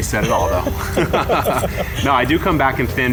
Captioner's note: laughing